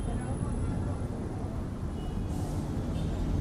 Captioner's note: city noises